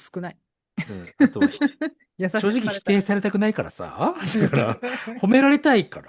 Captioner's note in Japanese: 笑い